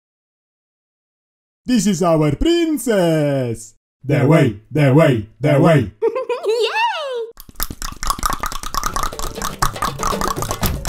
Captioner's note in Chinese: 大量彈舌